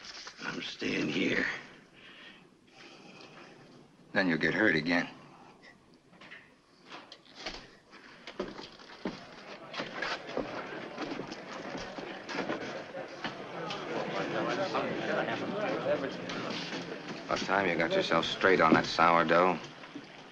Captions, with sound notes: I'm staying here. Then, you'll get hurt again. [ PEOPLE MURMURING ] Last time you got yourself straight on that sourdough.